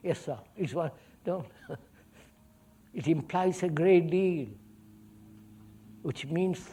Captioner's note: laughs